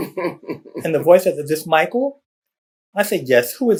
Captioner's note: laughter